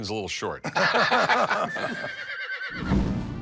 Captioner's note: laughter; horse neighs